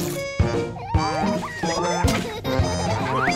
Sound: laughter

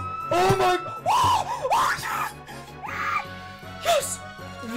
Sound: excited screaming

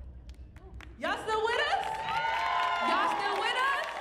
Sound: audience cheering

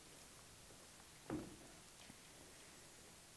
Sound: block hitting the floor

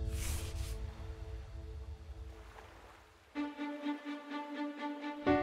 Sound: waves crashing

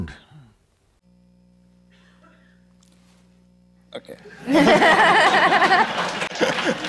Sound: laughter/Applause

